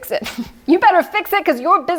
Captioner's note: laughs